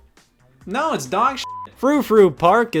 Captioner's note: beep